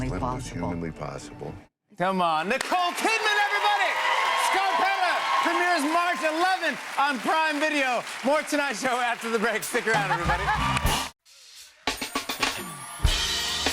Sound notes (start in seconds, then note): 3.7 cheers and applause; 9.5 laughs